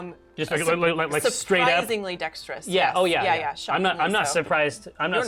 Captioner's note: none